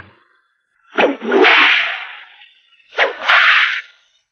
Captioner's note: cracking whip